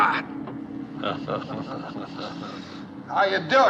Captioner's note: laughing